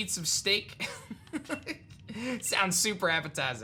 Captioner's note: chuckles